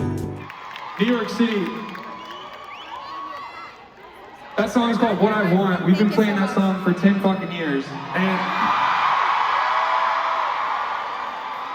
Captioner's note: crowd Cheers